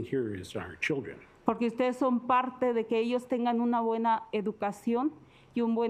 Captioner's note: speaking Spanish